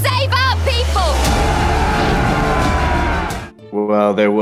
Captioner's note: warriors shouting